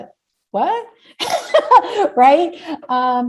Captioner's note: laughs